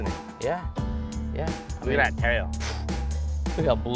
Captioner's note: huffs